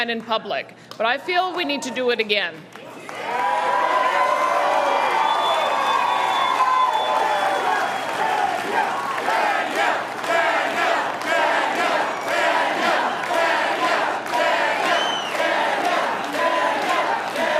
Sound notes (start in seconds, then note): 6.1 cheering; 12.1 chanting